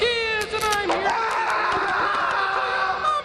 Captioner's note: mick screams